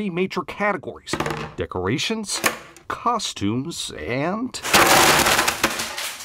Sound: candy dropping

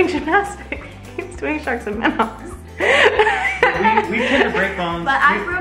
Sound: laughs

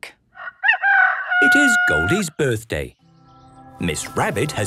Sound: rooster crowing

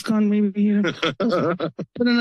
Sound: laughters

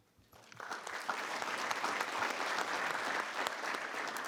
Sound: audience clapping

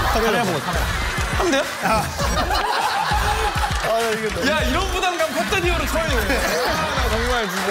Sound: laugh

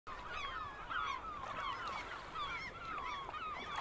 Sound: birds chirping

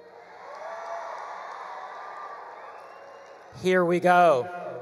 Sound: attendees cheering; attendees applauding

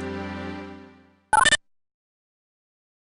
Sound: boop!

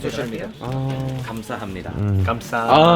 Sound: spoken in Korean language

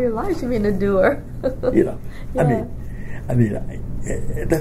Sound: laughs

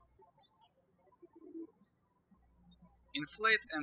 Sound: birds chirping

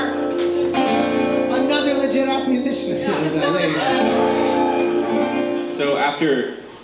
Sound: laughter

